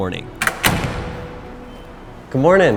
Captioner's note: door closing